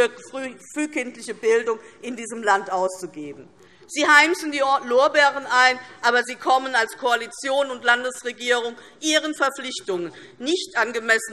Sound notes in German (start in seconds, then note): none